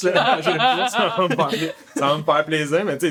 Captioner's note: laughs